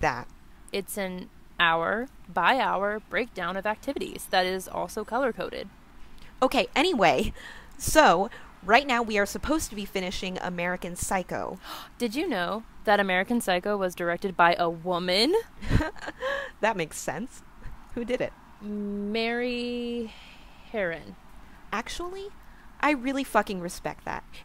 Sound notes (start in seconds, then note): 11.8 gasps; 15.6 laughs